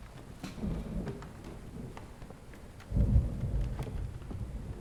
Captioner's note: thunder rolling